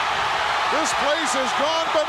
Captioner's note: crowd cheering